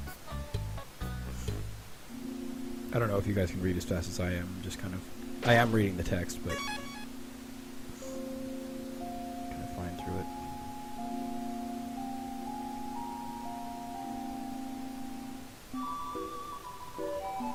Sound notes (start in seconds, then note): none